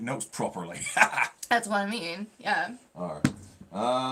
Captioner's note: laughing